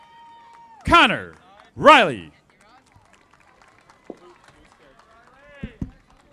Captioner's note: audience applauding